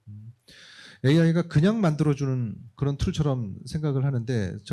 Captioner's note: speaking korean